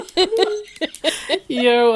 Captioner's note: laughing